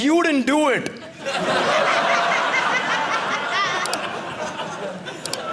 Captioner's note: audience laughing